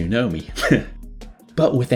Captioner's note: heh